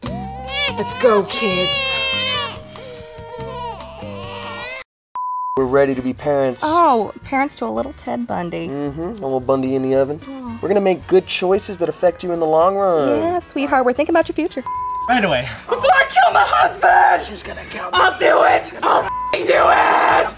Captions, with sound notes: Let's go, kids. *baby pizza and ice cream crying* We're ready to be parents. Oh, parents to a little Ted Bundy.. Mm-hm, a little Bundy in the oven. We're gonna make good choices that affect you in the long run. Yeah, sweetheart. We're thinking about your future. Right away. BEFORE I KILL MY HUSBAND! I'LL DO IT! I'LL FUCKING DO IT!